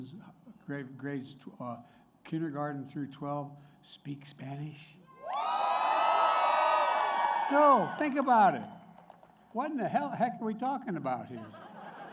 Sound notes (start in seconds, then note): 5.3 applause; 11.2 laughter